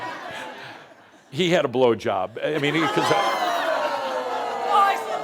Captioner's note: laughter; audience says “Ohhh!”